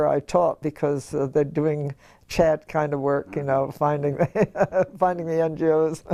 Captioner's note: laugh